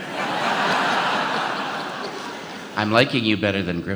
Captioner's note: audience laughs